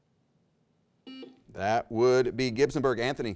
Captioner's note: buzzer rings